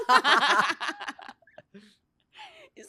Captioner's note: laughs